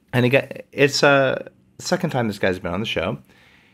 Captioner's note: none